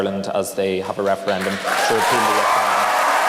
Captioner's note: applause